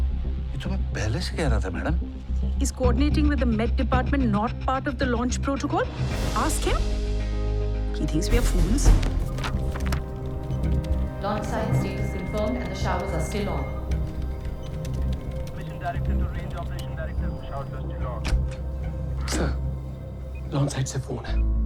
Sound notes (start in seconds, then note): 9.1 papers rustling; 15.5 speaking over PA system; 17.9 door opens